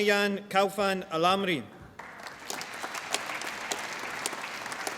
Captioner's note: applause